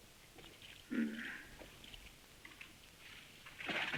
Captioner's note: Morton grunts